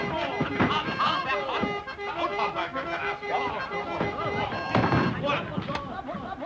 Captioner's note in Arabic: الرجال يصرخون على بعضهم البعض